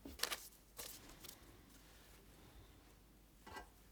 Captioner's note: paper rustling